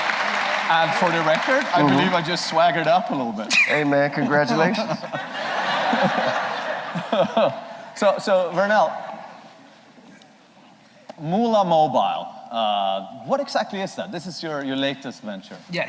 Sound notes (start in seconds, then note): 7.3 laughter